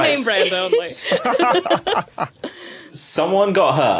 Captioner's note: laugh